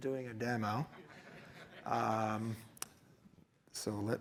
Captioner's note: laughter